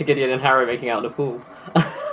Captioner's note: laughs